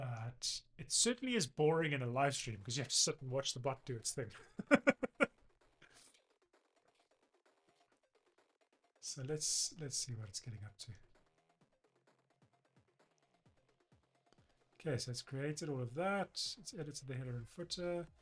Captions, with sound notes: But it certainly is boring in a live stream 'cause you have to sit and watch the butt do its thing. (laughs) So let's see what it's getting up to. Okay, so it's created all of that. It's edited the header and footer.